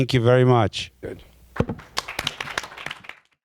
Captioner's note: attendees applaudng